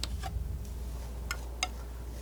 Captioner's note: tapping